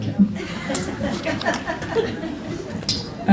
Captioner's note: laughter